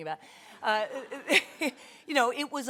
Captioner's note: audience laughter